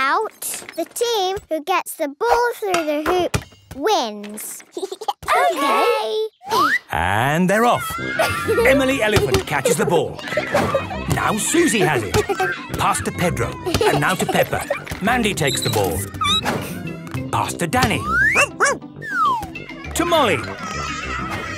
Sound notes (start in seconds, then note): 13.5 squeaking; 18.3 barking; 20.4 shouting